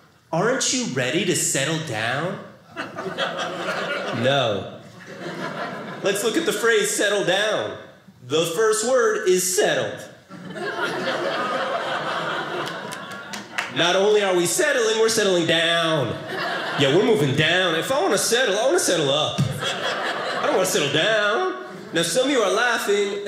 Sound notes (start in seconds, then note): 10.3 audience laughing